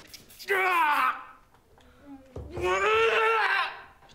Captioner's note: groans